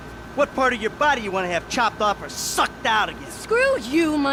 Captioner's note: none